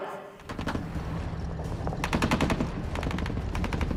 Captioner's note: gunshots